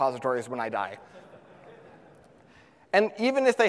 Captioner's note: audience laughs